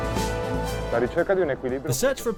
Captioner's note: man speaks foreign language